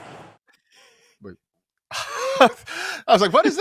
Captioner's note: laughter